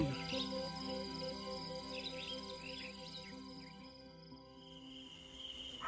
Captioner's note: crickets chirping